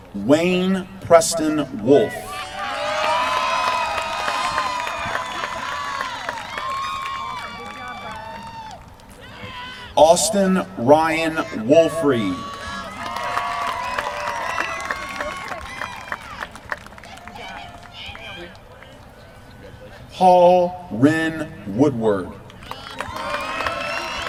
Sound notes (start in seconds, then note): 2.6 applause; 12.2 applause; 22.5 applause